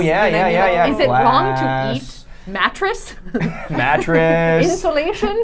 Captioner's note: laughing